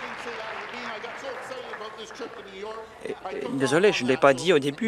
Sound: applause

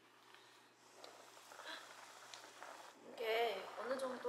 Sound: bubbling

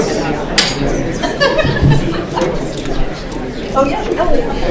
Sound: attendee laughing

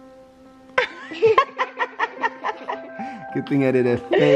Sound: laughing

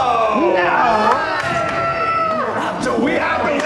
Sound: cheering; clapping

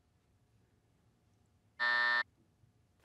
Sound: buzzer

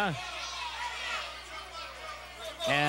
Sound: crowd cheers

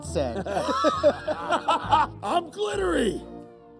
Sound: laughing

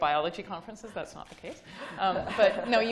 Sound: laughing

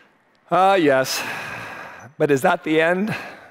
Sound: sighs

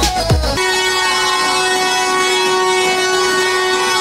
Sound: horns beeping

